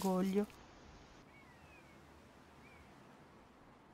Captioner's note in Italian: Suoni della natura